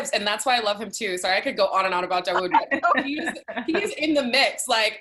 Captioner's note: laugh